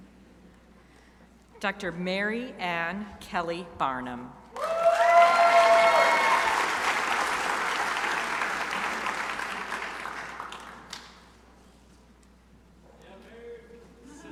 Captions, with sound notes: Dr. Mary Ann Kelly Barnum (crowd cheering)